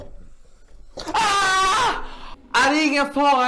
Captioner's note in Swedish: Lena skriker